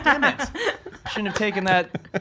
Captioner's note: laughs